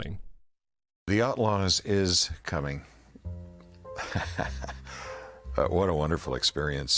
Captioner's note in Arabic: يضحك